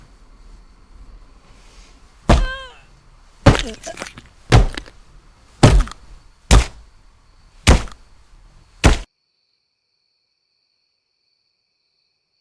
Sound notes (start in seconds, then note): 2.3 Alex grunts; 2.9 hammer banging